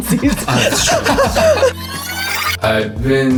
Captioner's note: laughing